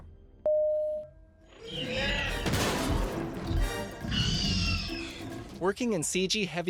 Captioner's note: raptor screams while intense music plays